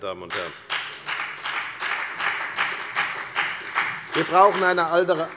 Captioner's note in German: Beifall bei der FDP sowie bei Abgeordneten der SPD